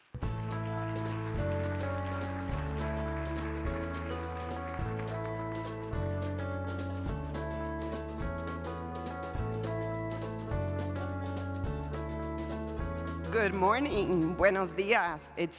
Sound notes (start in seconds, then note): 0.0 audience applauding; 0.7 upbeat music